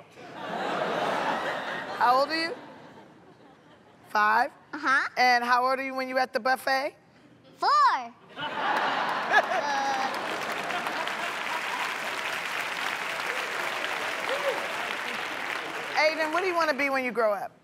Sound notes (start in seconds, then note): 0.1 laughter; 8.2 laughter; 10.4 applause